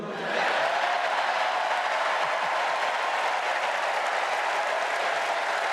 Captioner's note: cheers and applause